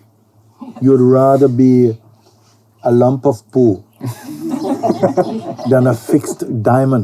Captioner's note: laughter